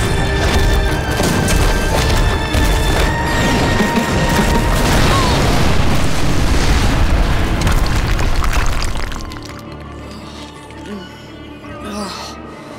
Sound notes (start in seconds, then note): 4.7 grunting; 11.1 groaning